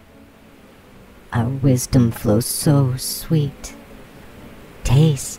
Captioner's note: the Buzzing voices, female and male